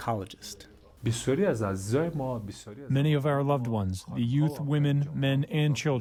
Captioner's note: through translator